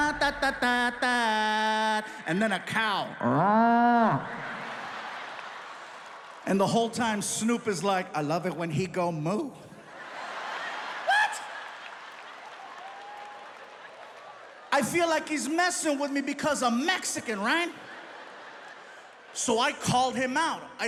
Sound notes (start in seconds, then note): 3.3 imitates cow mooing; 4.3 audience laughs; 9.8 audience laughs